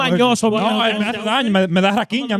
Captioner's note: speaking In Foreign Language